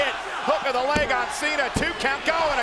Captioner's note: hands thudding